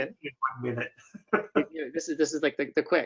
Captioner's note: laughs